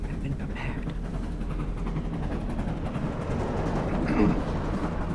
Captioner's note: train tracks rattling; throat clearing